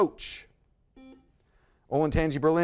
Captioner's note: buzzer buzzes